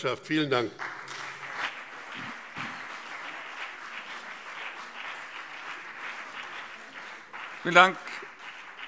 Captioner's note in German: Beifall BÜNDNIS 90/DIE GRÜNEN und CDU